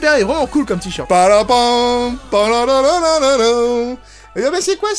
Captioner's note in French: chant